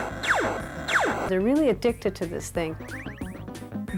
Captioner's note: laser fire